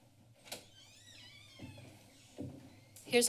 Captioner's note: door opening